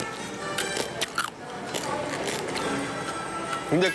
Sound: real Surround Shell Mukbang Sound

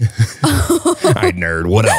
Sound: laugh

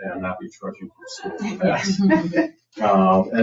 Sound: people chuckle

